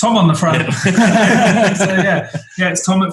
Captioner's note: group laughing